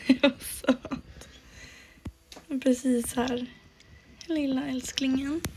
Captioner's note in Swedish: skratt